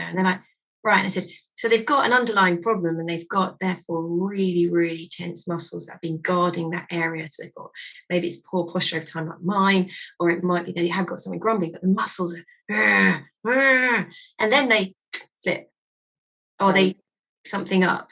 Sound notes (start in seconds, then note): 13.3 groaning